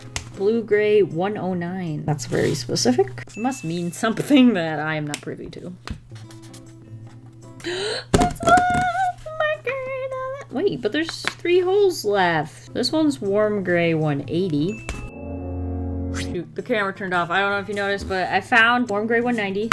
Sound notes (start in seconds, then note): 7.6 gasp